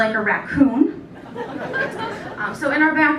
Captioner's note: laughter